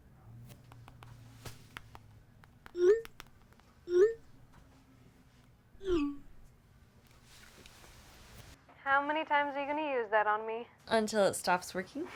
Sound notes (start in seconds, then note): 2.8 phone chirps